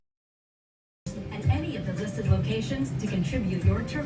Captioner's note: on TV